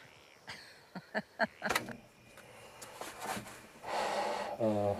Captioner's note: woman laughs